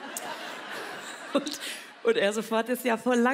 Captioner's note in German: lacht